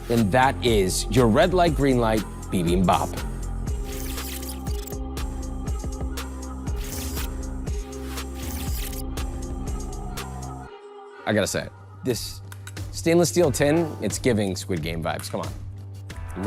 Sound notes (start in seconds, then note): 3.6 gentle music; 3.6 puppet's eyes squeaking